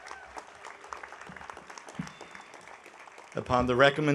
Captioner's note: audience applauding